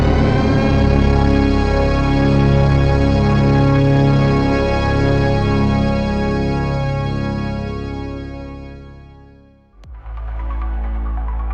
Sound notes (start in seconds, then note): none